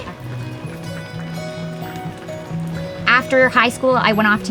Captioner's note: rain drops